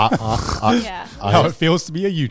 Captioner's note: men groaning